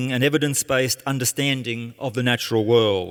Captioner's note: none